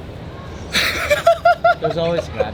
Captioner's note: laughs